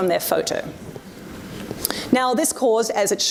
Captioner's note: audience murmurs